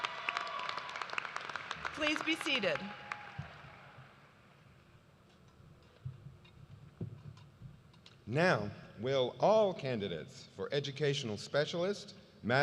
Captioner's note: cheers and applause